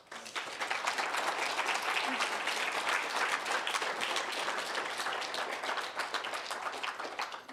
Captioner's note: applause